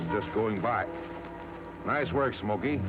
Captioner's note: feet scuffling